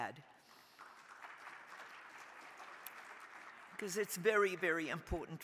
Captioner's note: crowd applauding